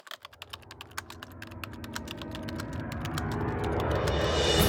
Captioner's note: typing sounds